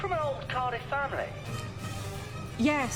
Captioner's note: none